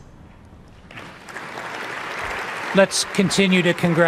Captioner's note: audience applauding